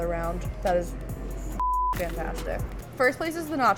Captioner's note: beep